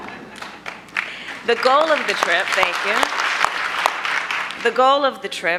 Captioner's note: applause